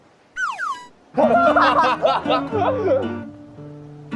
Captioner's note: laughter erupts